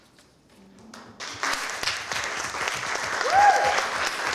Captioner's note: applause